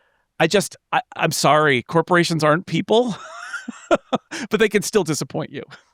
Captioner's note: laughing